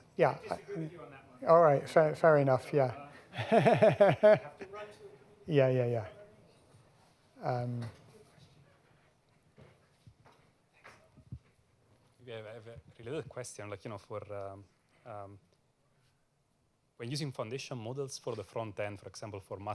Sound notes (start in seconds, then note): 3.3 laughs